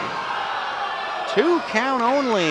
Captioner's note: audience oohs